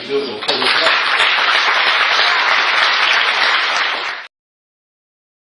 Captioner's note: applause